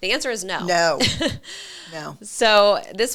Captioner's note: chuckling